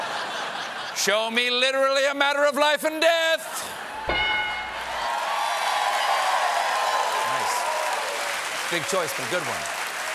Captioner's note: laughter